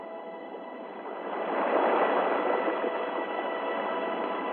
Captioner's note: waves crashing